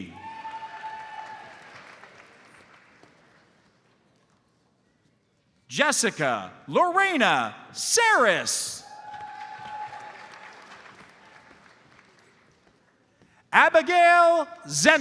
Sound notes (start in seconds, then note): 0.0 audience cheers and applauds; 9.0 audience applauds